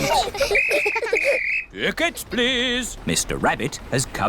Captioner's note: blows whistle